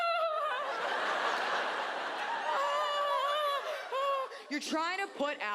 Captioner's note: laughs; audience laughs